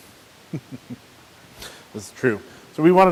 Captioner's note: chuckles